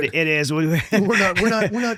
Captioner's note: laughs